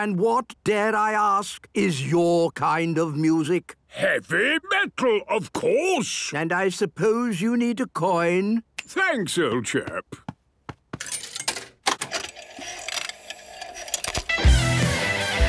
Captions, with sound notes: - And what, dare I ask, is your kind of music? - Heavy Metal, of course! - And I suppose you need a coin? - Thanks, old chap! (clicks, whirring) - (heavy metal music plays)